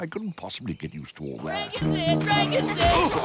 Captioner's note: cheering